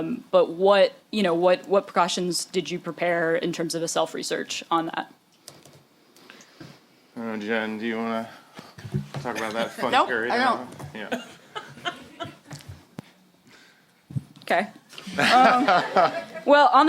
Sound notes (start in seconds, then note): 11.0 chuckling